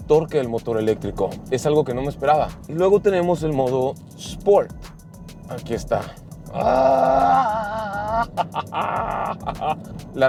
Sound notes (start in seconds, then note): 6.5 grunts with satisfaction